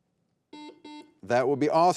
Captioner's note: buzzer beeping